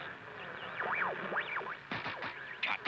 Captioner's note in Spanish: estática